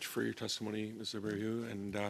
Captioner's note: speaking French